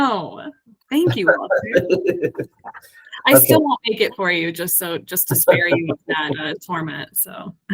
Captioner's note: laughs